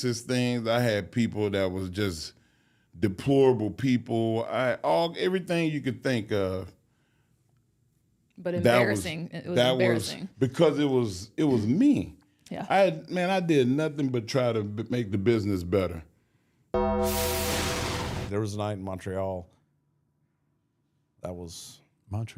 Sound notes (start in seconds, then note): 16.8 logo dinging; 16.8 logo whooshing